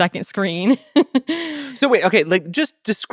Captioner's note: laughing